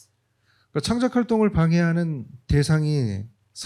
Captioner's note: speaking korean